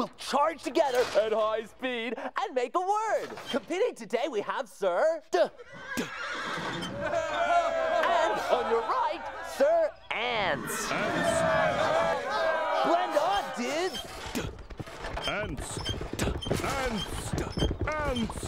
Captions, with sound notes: WILL CHARGE TOGETHER AT HIGH SPEED AND MAKE A WORD. COMPETING TODAY, WE HAVE SIR "D"... ( crowd cheers ) AND ON YOUR RIGHT, SIR "ANCE." ( cheering ) BLEND ON, DUDES!